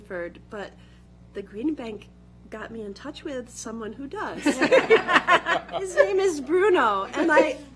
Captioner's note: laughter